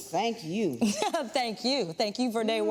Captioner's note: laughs